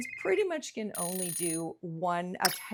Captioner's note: bell ringing; phone ringing